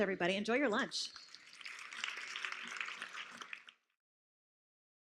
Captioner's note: applause